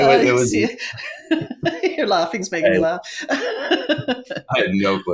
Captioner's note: laughing